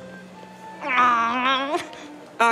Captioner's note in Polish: warczy